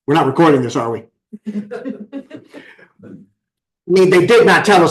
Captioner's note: laughter